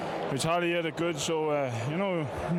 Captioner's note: applause